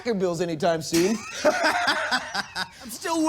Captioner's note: laughter